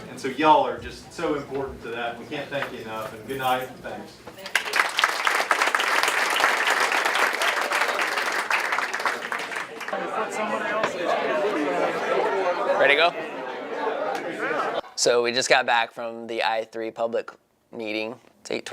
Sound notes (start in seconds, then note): 4.4 applause; 10.8 chatter